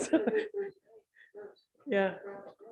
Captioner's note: murmurs